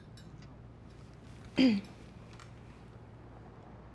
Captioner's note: clears throat